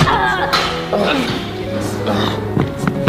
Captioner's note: door opens